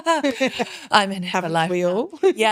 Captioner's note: both laughing